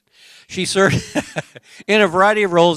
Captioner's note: laughter